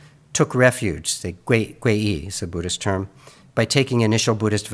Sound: speaks in Mandarin

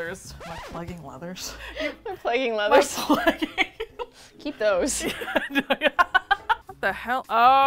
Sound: laughs; laughing; laughs

